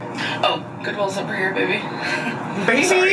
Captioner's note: chuckles